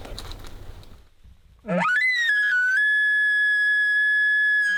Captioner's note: caller bugling